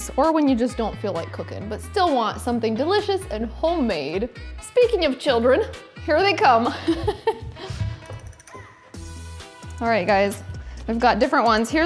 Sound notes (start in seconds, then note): 6.7 laughs; 7.5 upbeat music